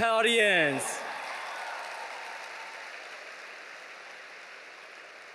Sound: audience cheering

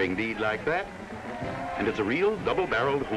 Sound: cheering

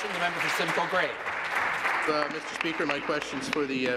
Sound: applause

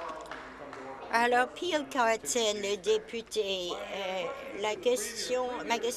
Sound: applause

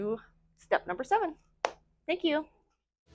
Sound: clap

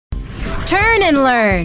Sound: wind whooshes

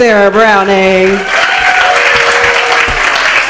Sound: applause

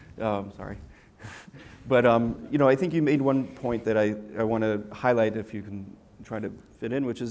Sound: laugh

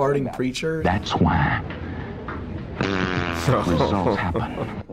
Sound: fart noise

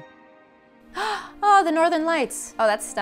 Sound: gasping

